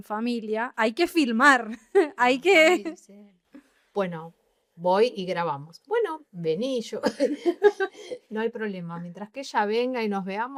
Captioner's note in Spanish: risas